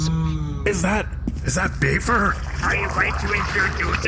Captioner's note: sloshing